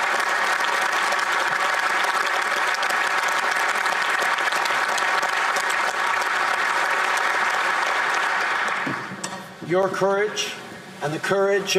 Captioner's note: applause